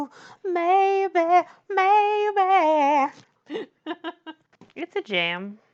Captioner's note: laughs